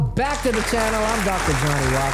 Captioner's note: applause